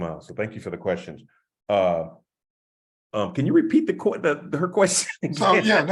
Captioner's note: laugh